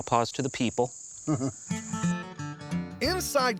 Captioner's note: chuckles